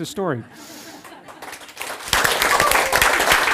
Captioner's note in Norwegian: Applaus